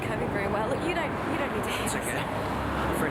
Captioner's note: faintly speaking